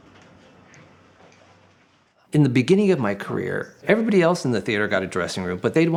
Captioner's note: narrating